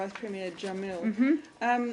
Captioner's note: laughter